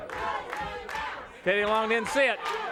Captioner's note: crowd chanting